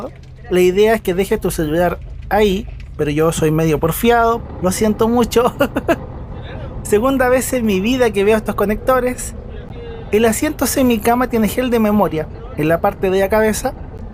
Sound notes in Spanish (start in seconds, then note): 5.4 risas